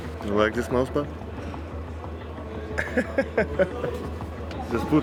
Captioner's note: laughing